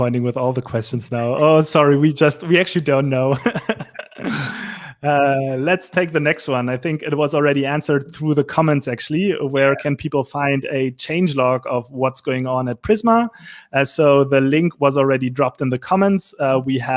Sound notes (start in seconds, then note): 3.3 laughing